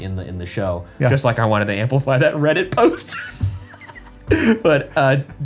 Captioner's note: laughs